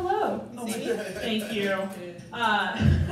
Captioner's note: crowd Giggling